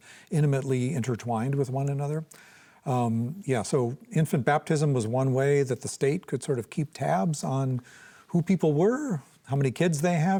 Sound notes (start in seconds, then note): none